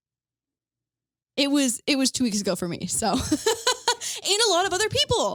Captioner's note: laughs